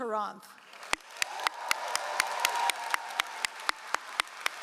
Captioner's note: all applauding